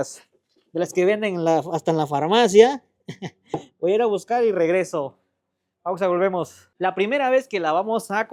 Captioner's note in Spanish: risas